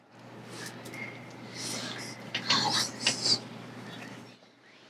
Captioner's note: children whispering